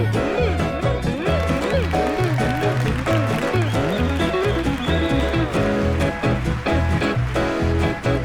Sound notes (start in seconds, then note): 1.0 audience cheering; 1.6 audience applauding